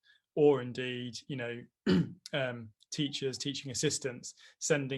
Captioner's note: clears throat